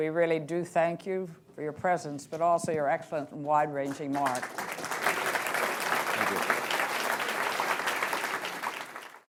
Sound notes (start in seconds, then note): 2.2 applause